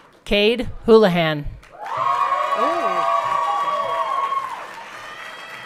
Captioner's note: everyone cheering